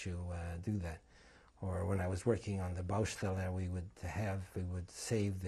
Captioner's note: non-english